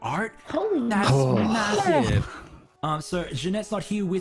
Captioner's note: all exclaim at once